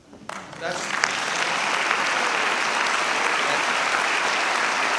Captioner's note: audience applauding